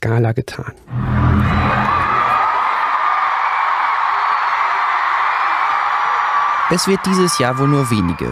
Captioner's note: audio of fans cheering